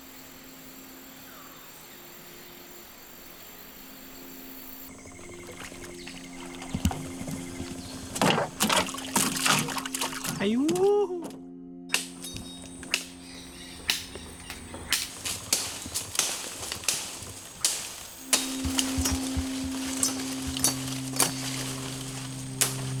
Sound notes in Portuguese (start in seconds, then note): 0.0 ambiente de floresta; 7.3 sons do peixe caindo no barco; 12.4 batidas metálicas afiadas em madeira